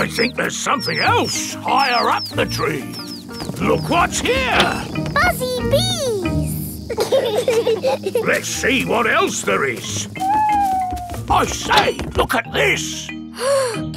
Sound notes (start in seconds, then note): 7.4 bees buzzing; 10.1 owl hooting